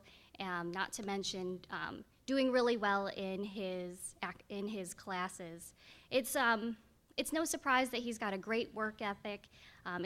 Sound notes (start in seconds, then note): none